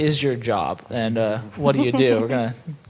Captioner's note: laughing